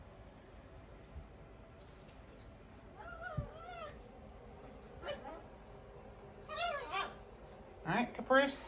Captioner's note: Ella continues to yelp